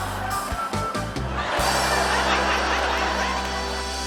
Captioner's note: laughter